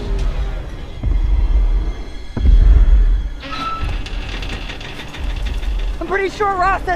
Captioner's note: tense music; slow footsteps